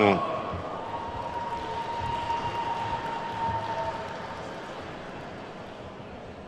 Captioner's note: attendees whooping and clapping